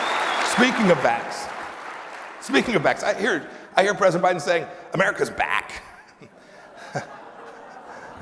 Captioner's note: applause